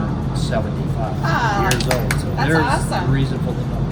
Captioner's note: clapping